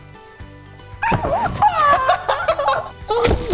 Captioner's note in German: Lachen; Verzerrter Ausruf und Lachen